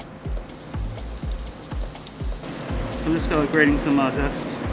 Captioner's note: oil sizzling